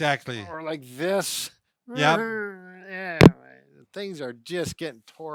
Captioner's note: groaning